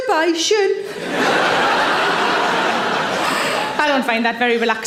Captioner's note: audience laughs